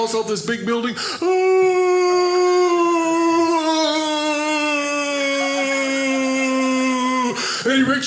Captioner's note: yelling